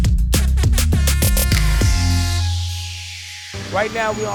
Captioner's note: upbeat hip-hop music; horn blares